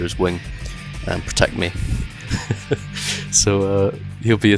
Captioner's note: laughter